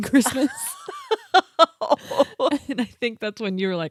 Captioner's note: laughing